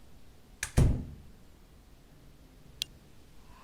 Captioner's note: door close